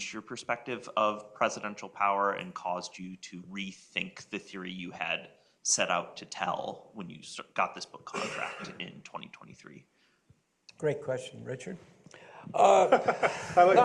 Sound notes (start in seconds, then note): 12.6 laughter